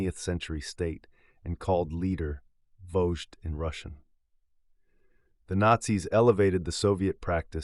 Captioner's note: Vozhd in Russian